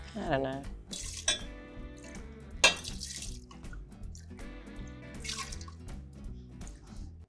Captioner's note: upbeat jazzy music; liquid splashing